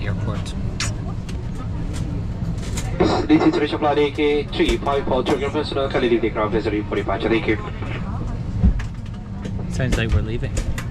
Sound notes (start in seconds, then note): 2.8 flight Announcement